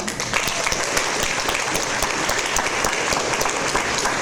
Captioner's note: audience applause